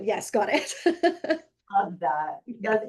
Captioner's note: laughing